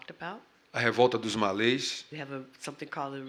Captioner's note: speaking portuguese